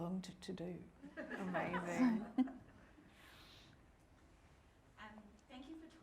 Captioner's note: audience laughing